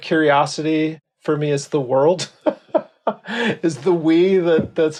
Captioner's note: laughs